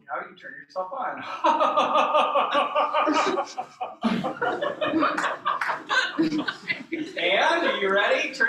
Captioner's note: laughter